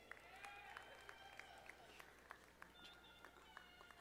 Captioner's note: audience applauding